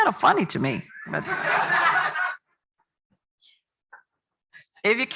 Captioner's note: laughter